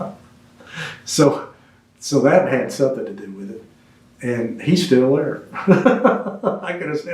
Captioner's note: laughs